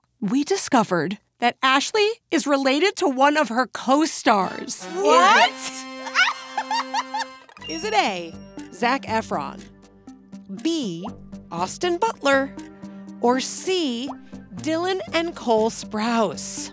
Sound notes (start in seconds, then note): 6.0 Ashley laughs